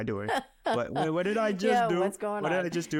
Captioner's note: laughing